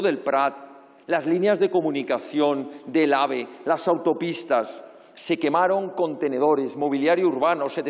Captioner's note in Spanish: none